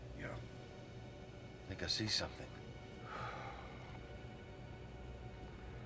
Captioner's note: sighs